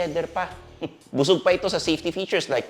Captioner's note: scoffs